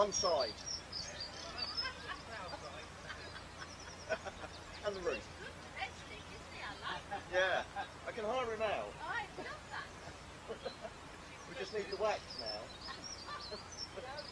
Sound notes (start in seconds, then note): 4.5 laughter